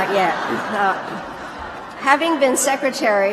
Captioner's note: laughter